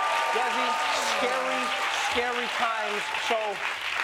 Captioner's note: cheers and applause